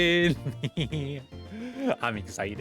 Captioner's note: gremlin laugh